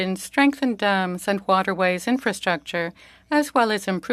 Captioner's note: speaking French